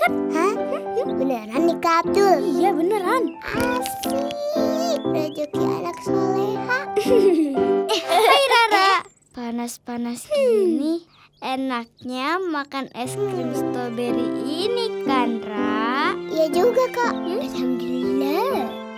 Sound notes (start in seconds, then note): 7.8 laughing